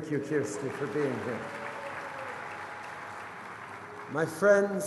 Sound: applause

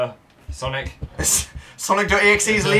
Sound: laughs

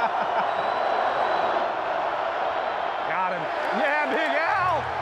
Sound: indistinct chatter and laughter; crowd cheering

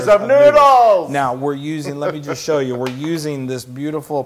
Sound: laugh

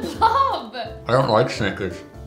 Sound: laughing

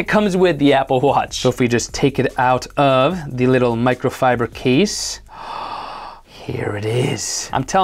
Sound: gasps

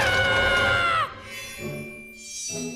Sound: screams

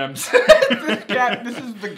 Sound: laughs

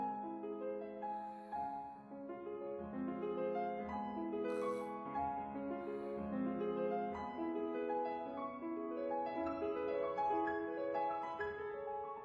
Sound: sighs

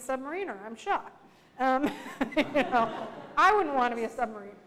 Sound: laughter

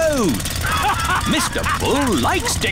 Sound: all laughing

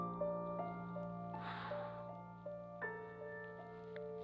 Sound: sighs, emotionally

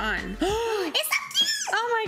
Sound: gasping

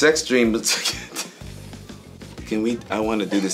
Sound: chuckling

